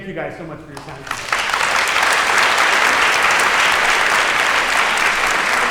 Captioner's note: audience applause